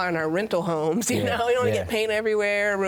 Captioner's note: laughs